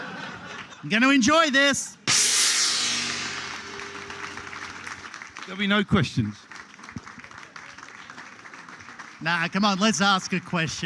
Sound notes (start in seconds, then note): 0.0 laughter; 4.8 applause